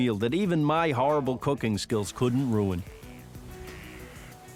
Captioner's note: phone ringing